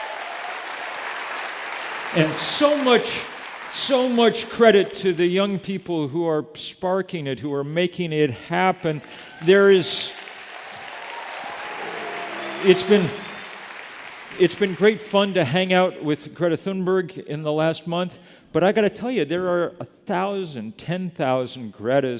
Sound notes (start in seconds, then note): 0.0 applause; 8.5 applause